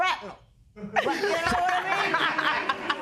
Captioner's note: laughter